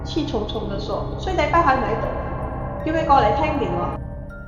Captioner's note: Cantonese